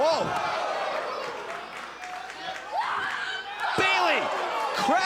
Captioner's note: crowd chatter